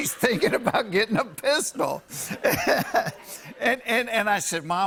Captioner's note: laughs